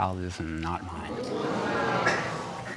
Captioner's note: audience gasps